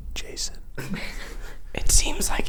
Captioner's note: laughing